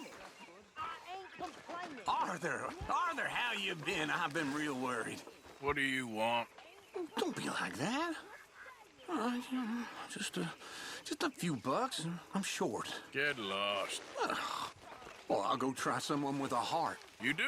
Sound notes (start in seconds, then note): 9.7 murmurs; 14.1 sighs